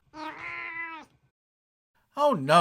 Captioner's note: meow